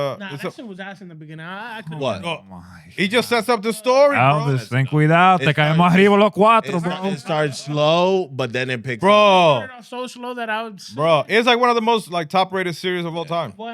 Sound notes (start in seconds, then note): 6.1 speaking In Foreign Language